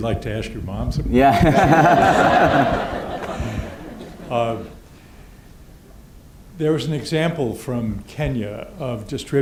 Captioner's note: laughter